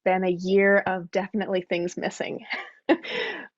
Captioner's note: laughs